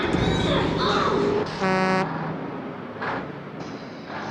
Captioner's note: horn honks